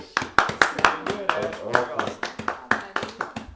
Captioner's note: applause